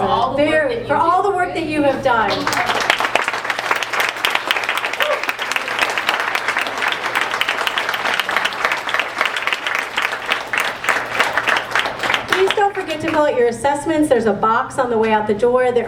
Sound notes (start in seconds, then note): 2.2 applause